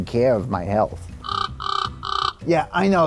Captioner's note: penguin squawking